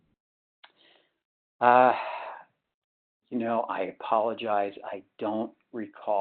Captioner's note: sighs